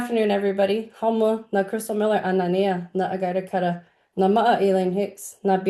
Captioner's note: speaking indian